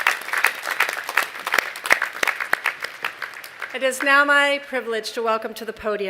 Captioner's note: applause